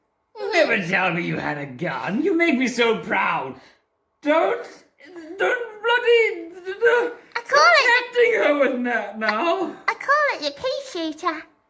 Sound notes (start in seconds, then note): 6.4 incomprehensible noise of soiling himself